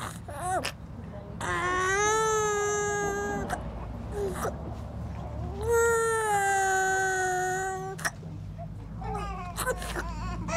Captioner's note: foreign Language